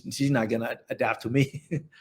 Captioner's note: laughs